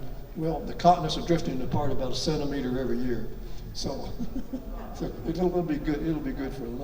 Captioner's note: laughs